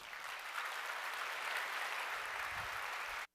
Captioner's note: applause